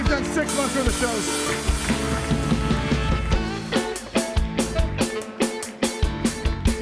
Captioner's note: upbeat music; audience applauds